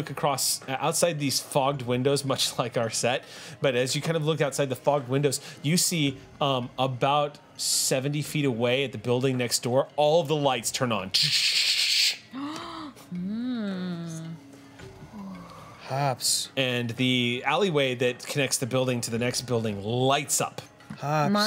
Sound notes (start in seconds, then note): 12.5 gasps